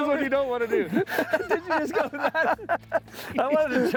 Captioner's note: both laughing